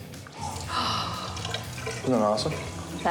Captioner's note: gasping